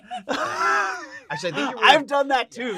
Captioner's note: laughing